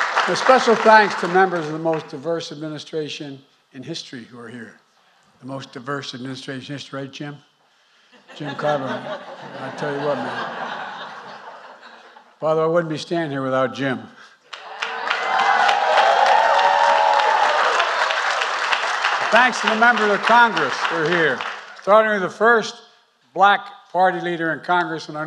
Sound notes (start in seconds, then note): 0.0 applause; 8.2 laughter; 13.9 applause